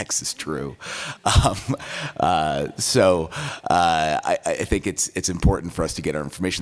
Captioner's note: laughs